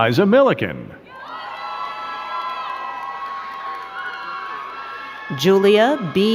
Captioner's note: crowd cheering and clapping